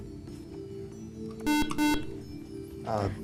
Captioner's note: beeping